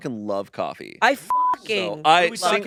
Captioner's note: beep